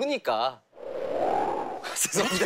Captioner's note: cold wind howling